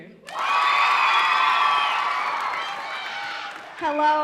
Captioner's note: audience cheering